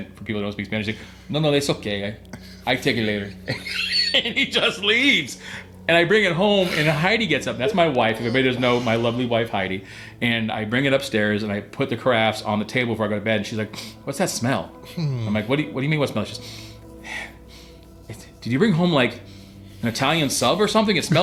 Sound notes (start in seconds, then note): 3.0 laughs; 16.4 sniffing